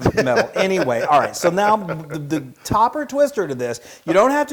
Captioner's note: laugh